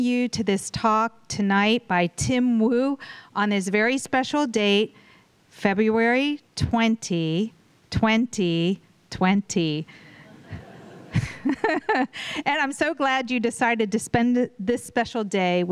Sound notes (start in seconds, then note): 10.2 chuckles